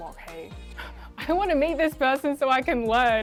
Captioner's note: chuckles